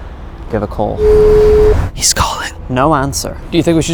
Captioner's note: phone ringing